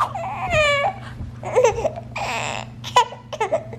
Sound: laughing

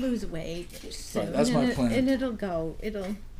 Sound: voiceover

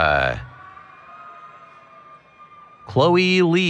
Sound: cheering

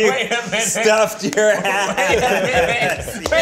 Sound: laughs; group laughs and claps

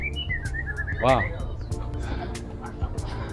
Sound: beautiful bird call; 美妙的鳥叫聲

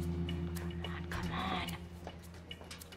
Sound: whispered

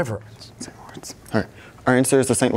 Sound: whispering

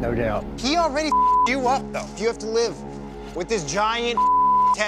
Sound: beep; beep

